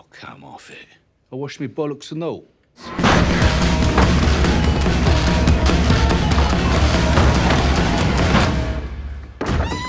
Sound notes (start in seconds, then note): 2.9 rock music; 3.0 door slamming; 8.2 rock music ends; 8.2 wood plank thuds